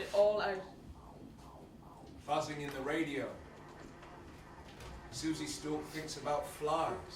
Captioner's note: flies buzzing